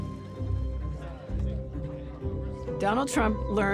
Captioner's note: talking in background